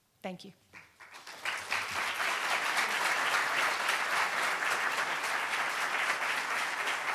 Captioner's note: audience clapping